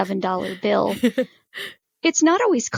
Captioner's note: chuckles